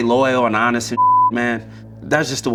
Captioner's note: beep